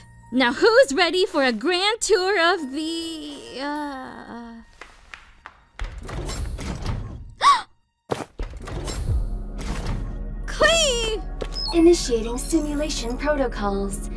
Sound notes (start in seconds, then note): 7.3 gasp